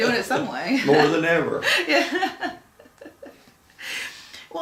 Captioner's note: laughing